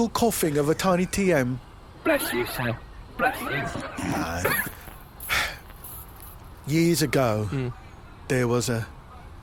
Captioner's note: sighs